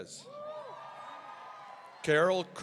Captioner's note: audience cheering